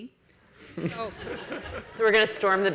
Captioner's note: audience laughs